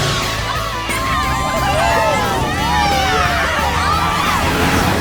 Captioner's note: cheering